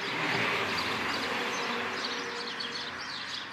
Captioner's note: traffic noise